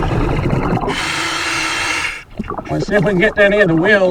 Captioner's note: water burbling; regulator hissing